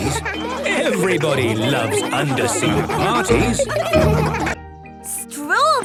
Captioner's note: laughter